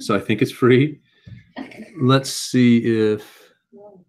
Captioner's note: laugh